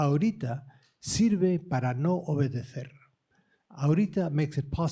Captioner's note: speaking spanish